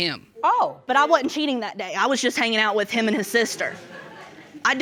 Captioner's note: audience laughing